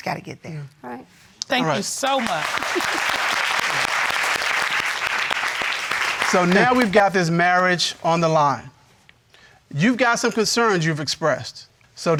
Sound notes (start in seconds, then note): 2.0 audience applauding